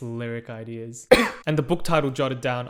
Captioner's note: cough